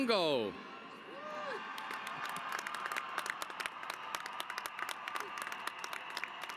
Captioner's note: applause